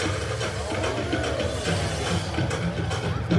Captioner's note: guests gasping in awe